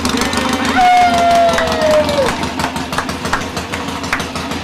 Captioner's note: men cheering